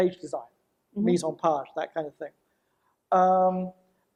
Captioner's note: speaks foreign language